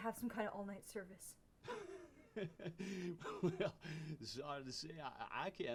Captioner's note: laughs